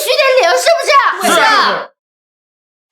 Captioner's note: crowd agreeing